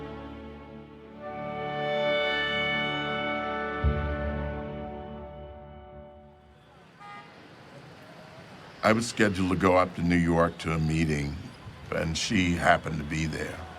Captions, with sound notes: [contemplative music continues] [horn honks] I was scheduled to go up to New York to a meeting, and she happened to be there.